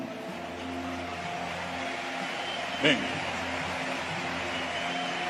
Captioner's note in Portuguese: Aplausos